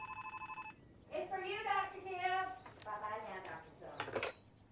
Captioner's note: telephone ringing